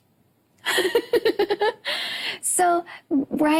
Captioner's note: laughs